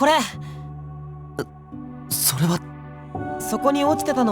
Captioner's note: gasp